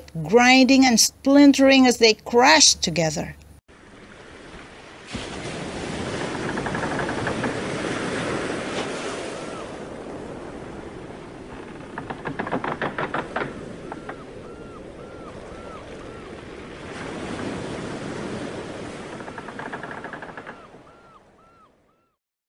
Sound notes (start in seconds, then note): 3.6 sound of splintering ships